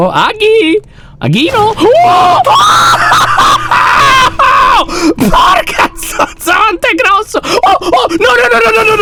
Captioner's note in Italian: urla spaventato; tono di panico